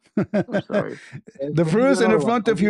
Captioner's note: ketawa